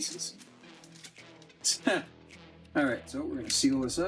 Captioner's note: chuckles